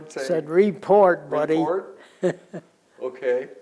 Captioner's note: laughter